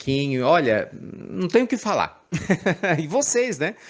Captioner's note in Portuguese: risadas